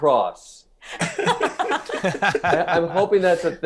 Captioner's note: panelists laughing